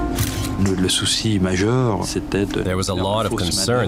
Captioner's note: speaking French